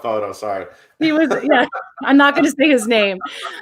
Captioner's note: laughs